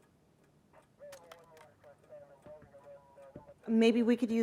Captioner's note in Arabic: ثرثرة على جهاز لاسلكي الشرطة